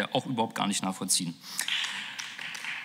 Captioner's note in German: Beifall